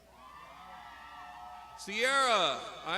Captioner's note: crowd shouts